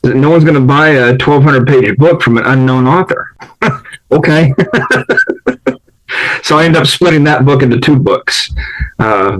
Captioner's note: laughs